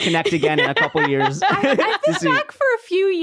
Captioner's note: laughs